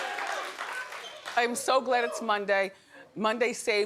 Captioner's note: laughing